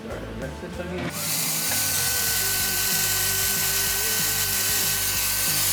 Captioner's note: vacuuming noise